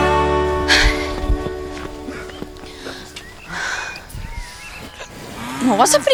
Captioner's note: panting